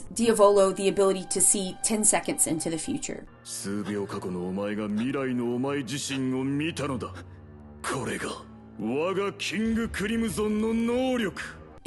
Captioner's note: foreign language 00:03:05